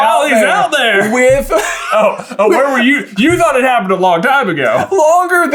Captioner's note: cracks up